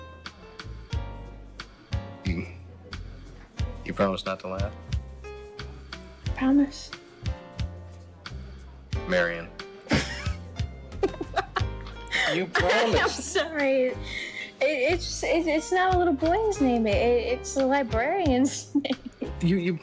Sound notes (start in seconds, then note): 0.2 jazzy lounge music; 10.1 Margaret laughing